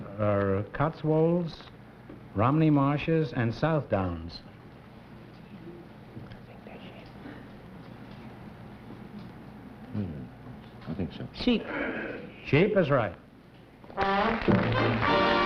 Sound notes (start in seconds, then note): 6.1 whispering; 13.9 applause